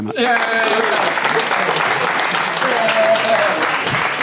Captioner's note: audience applauding